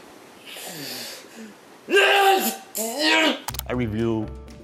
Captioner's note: breathes heavily and grunts